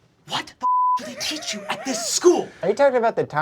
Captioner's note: beeping